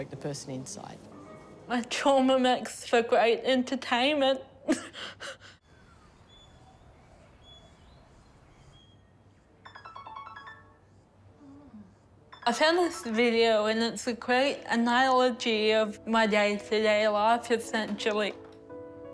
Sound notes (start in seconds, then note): 4.7 chuckles; 5.6 birdsong; 9.5 alarm chimes; 9.5 murmurs